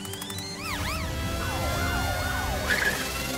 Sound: sirens blaring

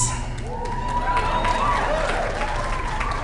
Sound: applause

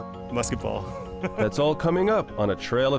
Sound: laughter

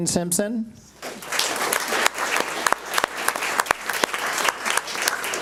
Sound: audience applauds

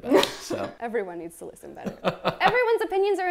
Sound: laughs

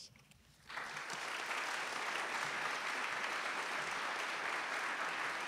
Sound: audience applauds

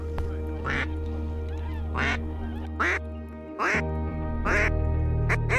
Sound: duck calls

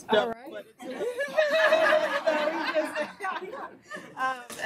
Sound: laughter

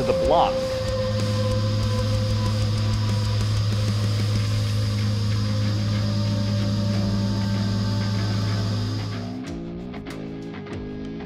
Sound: machining noises

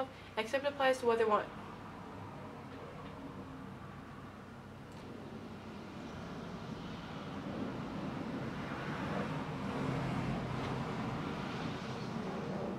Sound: traffic noises

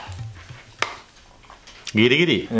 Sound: phone taps shut

